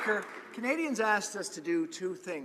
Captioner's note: applause